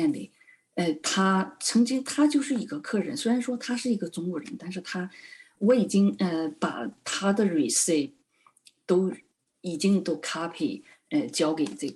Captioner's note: speaking chinese